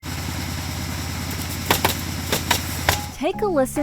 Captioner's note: nails thudding